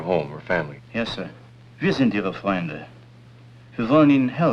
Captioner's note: German